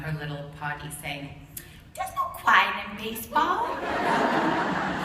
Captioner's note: laughter